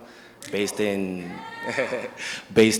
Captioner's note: audience member cheers. chuckles